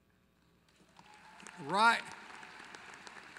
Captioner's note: applause